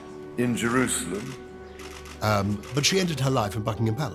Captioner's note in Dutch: camera klikt